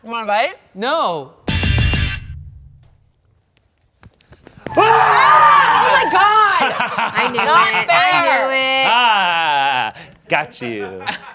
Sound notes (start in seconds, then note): 2.0 lighthearted keyboard music; 4.6 screams and runs towards cast